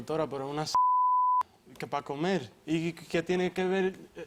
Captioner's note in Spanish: Bip